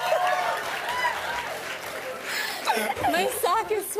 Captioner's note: cheers and applause; both laugh